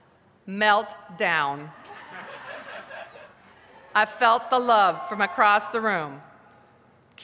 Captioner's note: laughter